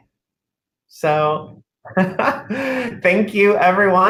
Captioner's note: laughter